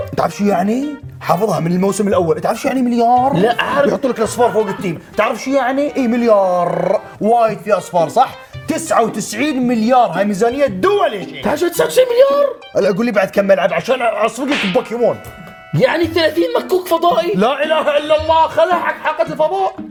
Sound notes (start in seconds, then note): 0.2 sarcastically